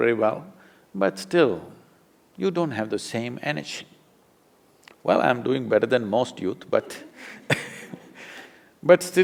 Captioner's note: laughs